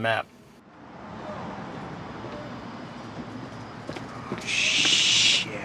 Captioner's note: traffic distantly rumbling